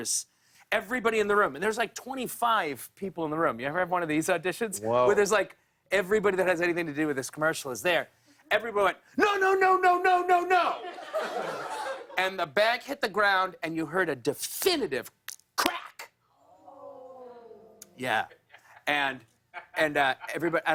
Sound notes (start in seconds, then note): 16.3 audience groans